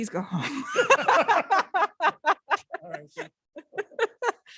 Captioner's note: laughing